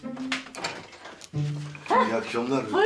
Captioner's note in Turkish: Kapı açılma sesi